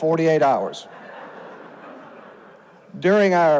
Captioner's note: audience laughs